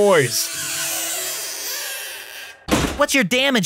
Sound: window squeaking

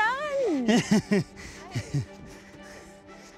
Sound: chuckling; string music playing

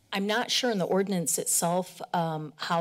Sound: none

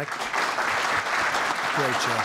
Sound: applause

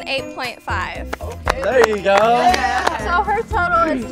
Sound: applauds

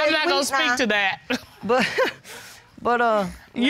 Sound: chuckles

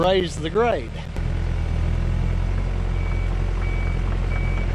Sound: excavator grading

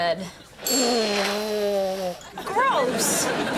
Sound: <i>nose blowing

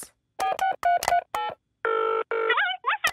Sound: dials phone; on phone

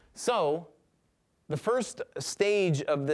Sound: none

